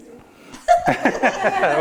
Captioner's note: all laughing